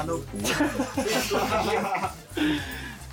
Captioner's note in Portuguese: risos